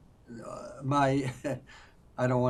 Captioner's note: laughing